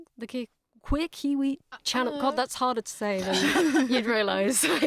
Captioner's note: laughs